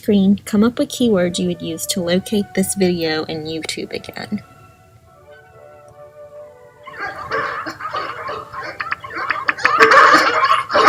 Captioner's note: dogs barking